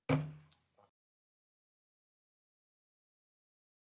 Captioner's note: gavel banging